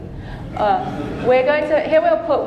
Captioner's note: audience laughing